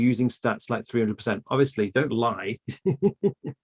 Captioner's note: laughs